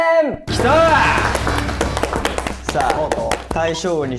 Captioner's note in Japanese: ：拍手